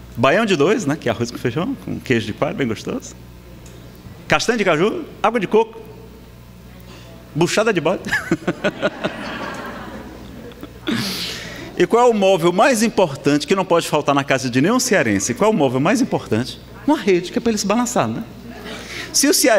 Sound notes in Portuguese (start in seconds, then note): 8.0 risadas